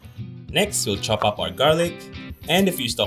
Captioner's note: voiceover